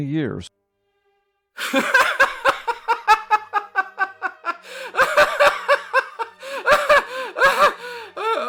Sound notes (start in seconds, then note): 1.6 laughter